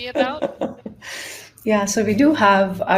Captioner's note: laughs